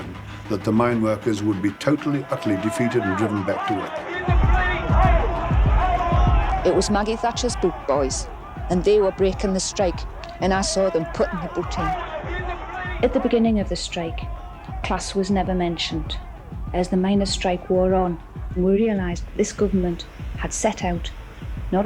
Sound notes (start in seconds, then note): 4.2 police Megaphone